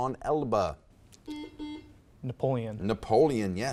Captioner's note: buzzer beeps